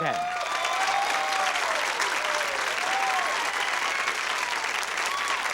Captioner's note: applause and cheering